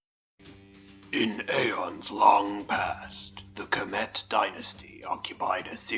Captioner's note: gravelly voice, ominous music